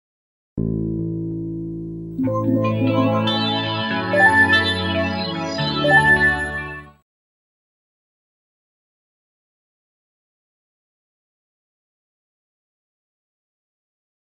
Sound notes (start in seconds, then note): 2.2 video Game Menu Noises